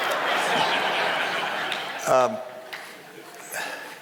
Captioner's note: crowd laughing